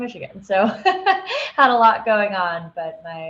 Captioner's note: laughing